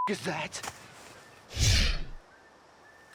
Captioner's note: air whooshes